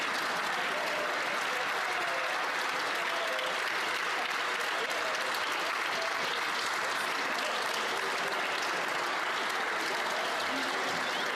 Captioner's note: applause